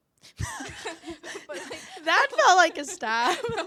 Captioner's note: laughing